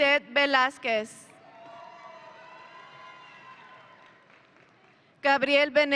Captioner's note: audience cheering